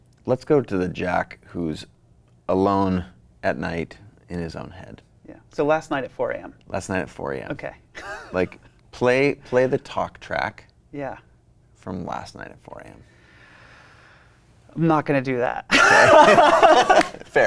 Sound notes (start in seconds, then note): 7.9 laughs; 15.7 both laughing